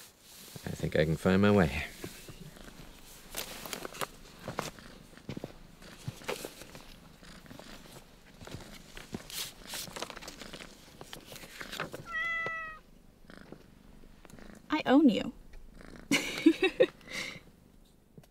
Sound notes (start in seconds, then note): 12.0 meows; 16.1 laughs